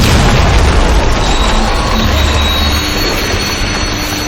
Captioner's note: explosion booming